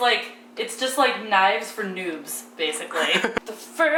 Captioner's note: laughs